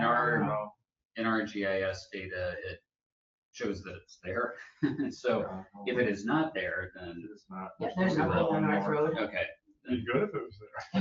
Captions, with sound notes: In our GIS data, it shows that it's there. So if it is not there then it's- (overlapping chatter) Okay. Be good if it was there.